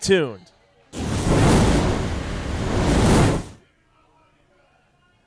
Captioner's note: sizzling fire sound